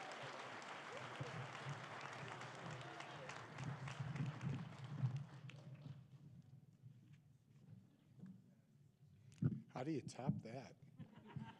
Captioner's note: applause